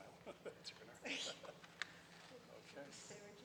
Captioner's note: chuckles